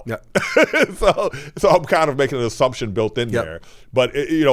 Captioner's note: laughs